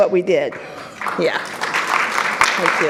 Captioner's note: audience applauds